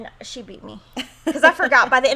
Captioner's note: chuckles